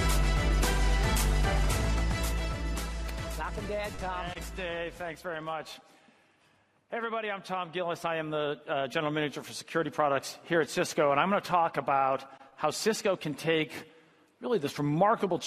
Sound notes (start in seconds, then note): 4.5 applause